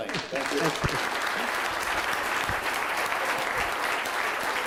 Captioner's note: audience applauds